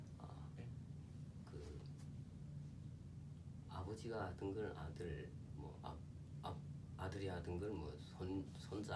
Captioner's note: speaking korean